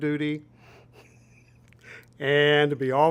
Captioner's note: laughs